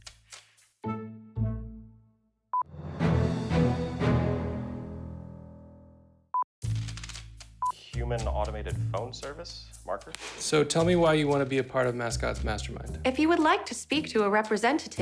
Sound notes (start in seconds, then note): 0.1 deflated music; 1.9 signal beeps; 2.7 triumphant music; 5.7 signal beeps